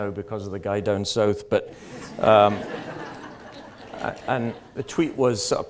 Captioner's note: audience laughter